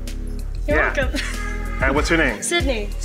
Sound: laughs

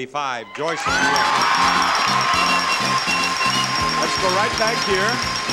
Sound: cheering

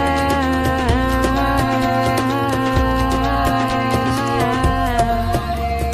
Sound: chanting in foreign language

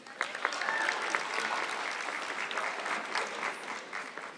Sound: audience clapping

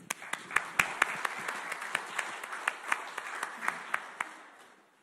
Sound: audience clapping

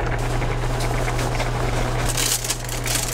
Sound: boiling

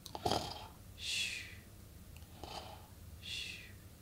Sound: snoring

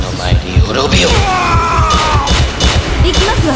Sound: KO Scream

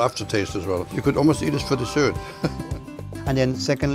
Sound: laughs

